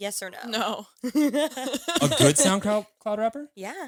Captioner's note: both laughing